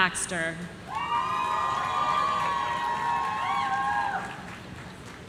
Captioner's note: audience cheering